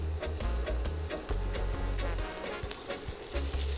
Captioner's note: sizzling